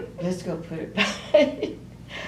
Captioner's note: laughter